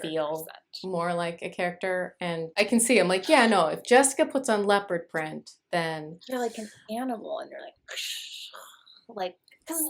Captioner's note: big cat noises